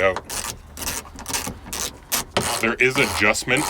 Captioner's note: ratcheting